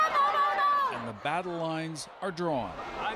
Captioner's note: chanting